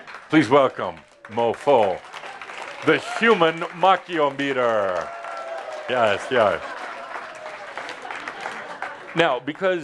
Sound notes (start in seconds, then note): 5.5 audience applause